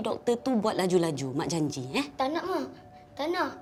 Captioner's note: in Bahasa Melayu